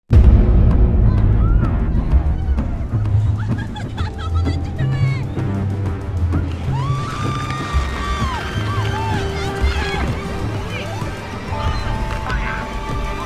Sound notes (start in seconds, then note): 6.6 screams